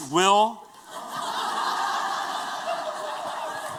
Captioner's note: laughter